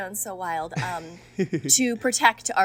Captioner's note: Hryam laughs